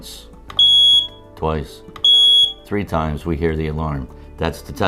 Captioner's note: alarm sounds